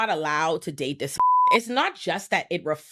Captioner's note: beep